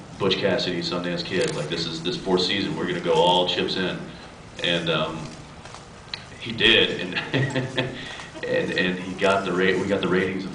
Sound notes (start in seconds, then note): 7.0 laughs